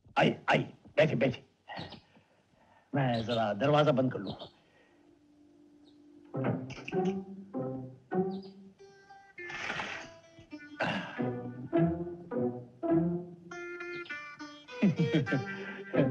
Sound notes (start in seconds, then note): 6.4 door Closes; 14.7 chuckles